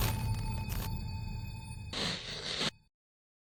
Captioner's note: electricity sparking; static